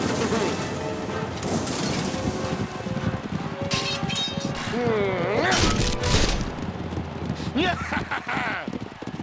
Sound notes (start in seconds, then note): 2.8 suspenseful music; 7.5 triumphant chuckles